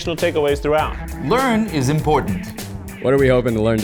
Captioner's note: pen clicking